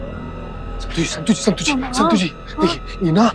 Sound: stammers

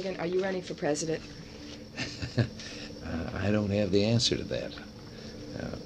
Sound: chuckles

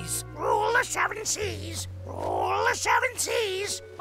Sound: squawks

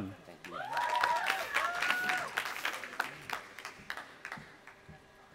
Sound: audience applauding and cheering

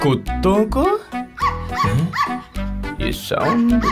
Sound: dog barking

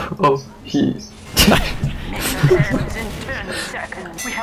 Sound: laughing

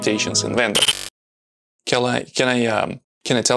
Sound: video recording buzzes

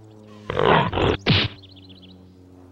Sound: growls

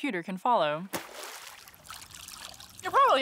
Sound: splash

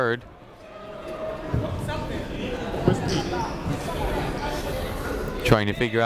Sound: people talking in the crowd

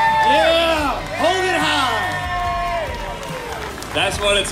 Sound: crowd cheering

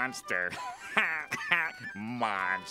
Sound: laughing

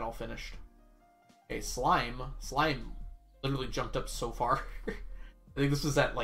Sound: laughs

